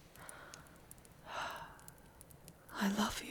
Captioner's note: sighing contently against you